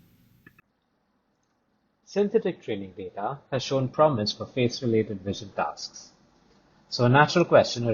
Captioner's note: click